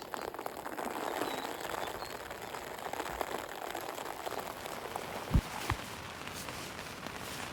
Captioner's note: sound of heavy rain